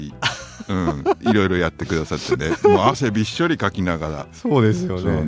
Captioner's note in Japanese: 笑い